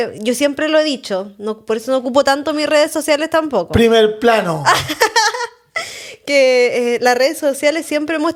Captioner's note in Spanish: risas